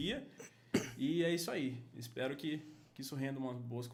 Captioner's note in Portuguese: Tosse ao fundo